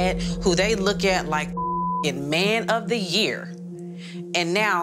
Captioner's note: beep